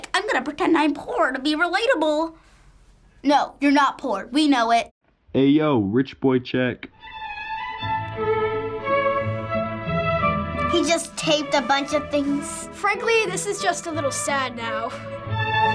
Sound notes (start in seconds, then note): 5.3 voice-over; 7.0 regal classical music